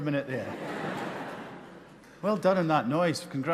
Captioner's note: audience laughing